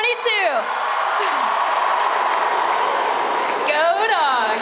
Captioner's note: crowd cheering